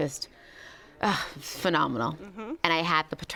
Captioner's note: sighs